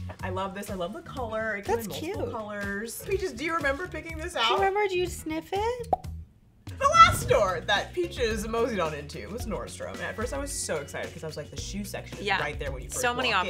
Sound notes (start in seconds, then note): 5.8 bubble pops